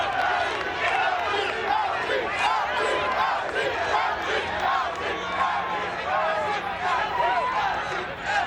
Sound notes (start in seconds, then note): 3.9 audience continues chanting